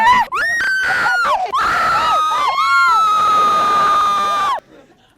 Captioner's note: hysterical screaming